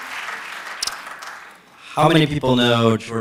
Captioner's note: applause